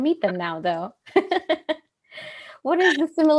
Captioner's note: laughter